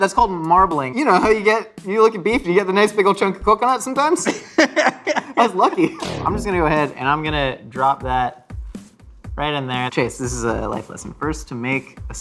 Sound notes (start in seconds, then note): 4.3 laughs; 6.0 electronic warbling